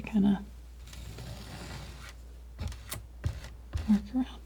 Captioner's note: scratching